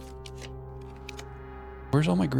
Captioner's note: keyboard clicking